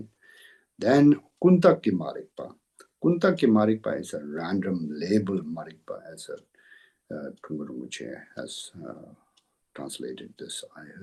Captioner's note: tibetan